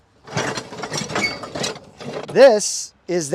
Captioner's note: metal clanking